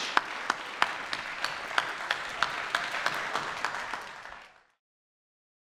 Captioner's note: applause